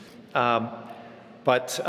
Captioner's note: none